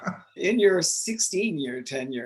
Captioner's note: laughs